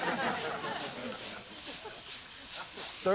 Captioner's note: laughter; sizzling